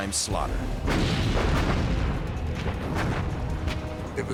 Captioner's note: gunfire